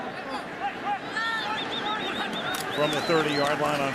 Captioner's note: shouting